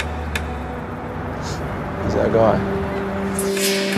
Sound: sniff

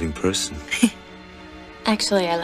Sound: Meg chuckles

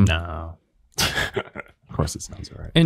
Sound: laugh

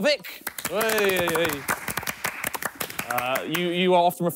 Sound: clapping

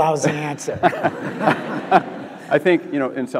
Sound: audience laughs

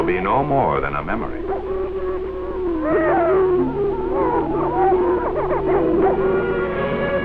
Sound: prairie chicken calling and booming

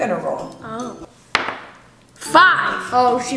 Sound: thud

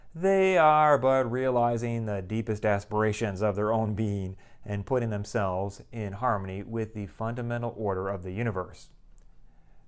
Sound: none

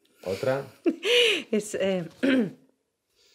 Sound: laughs

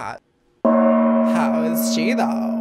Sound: gong rings

